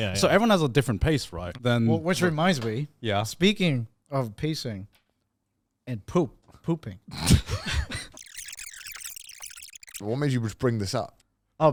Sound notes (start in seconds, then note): 7.8 men chuckle; 8.1 tape whirring